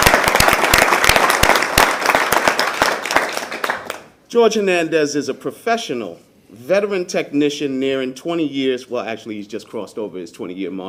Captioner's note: applause